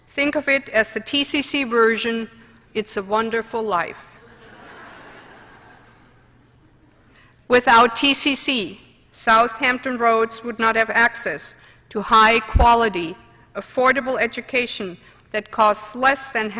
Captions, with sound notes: THINK OF IT AS THE TCC VERSION "IT'S A WONDERFUL LIFE." [LAUGHTER]. WITHOUT TCC, SOUTH HAMPTON ROADS WOULD NOT HAVE ACCESS TO HIGH-QUALITY, AFFORDABLE EDUCATION THAT COSTS LESS THAN